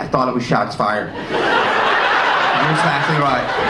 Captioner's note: audience laughing